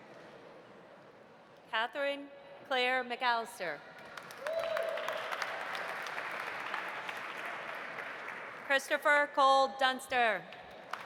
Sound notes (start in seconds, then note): 4.0 audience applauding; 4.4 audience cheering